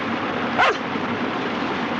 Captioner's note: barking